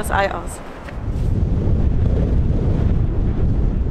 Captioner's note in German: Windgeräusche